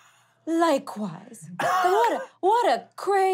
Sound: laughing

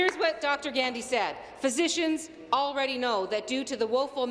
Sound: applause

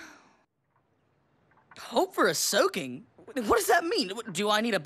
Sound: sighing

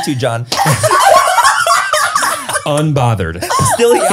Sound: everyone laughs

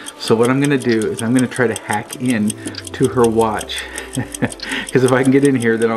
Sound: giggles

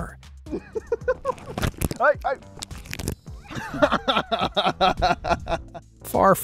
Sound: laughs

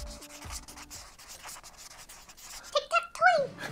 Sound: marker writing

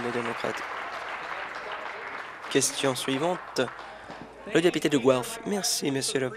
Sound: applause

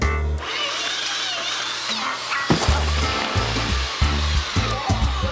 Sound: belt sanders whirring

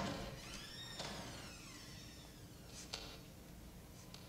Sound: door squeaks

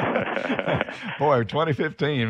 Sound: laughter

